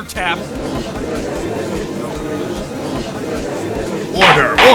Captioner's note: gallery chattering